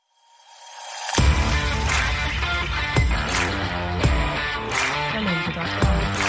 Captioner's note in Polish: Aplauz